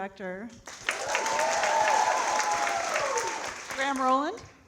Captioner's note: audience cheering and clapping